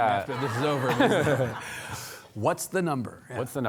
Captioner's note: audience laughing